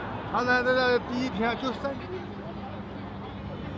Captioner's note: speaking Chinese